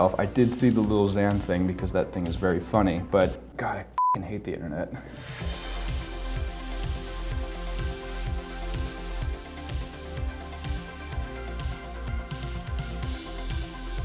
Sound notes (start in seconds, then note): 4.0 beep; 5.3 upbeat music